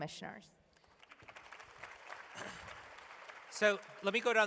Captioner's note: applause